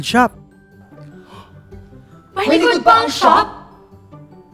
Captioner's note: gasps